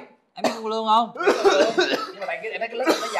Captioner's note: suddenly coughs?